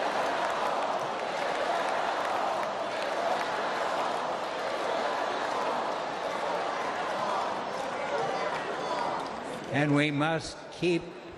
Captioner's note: chanting: "build that wall!"